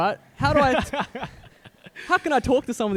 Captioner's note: both laughing